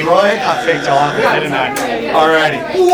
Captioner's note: wrong buzzer drowns out words